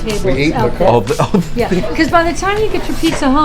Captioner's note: laughs